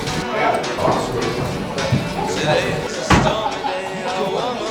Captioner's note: upbeat folk music; patrons chat